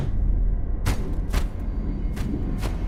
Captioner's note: thumping